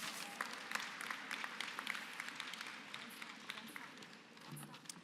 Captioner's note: applause